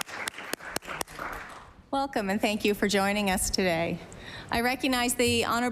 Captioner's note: applause